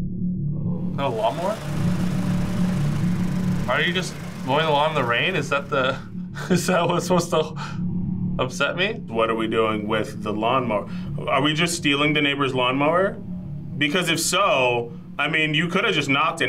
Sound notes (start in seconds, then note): 0.9 mini lawnmower buzzes